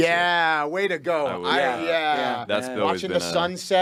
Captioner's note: group chattering